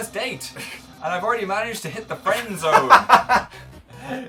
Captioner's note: laughing; laughs